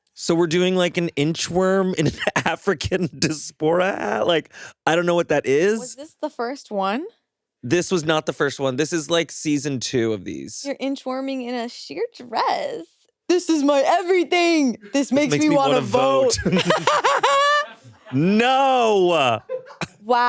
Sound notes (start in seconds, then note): 16.7 all laughing